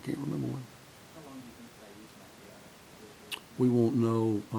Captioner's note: voiceover